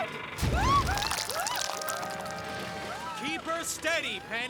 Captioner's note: rocks Clatter; Dilys Screams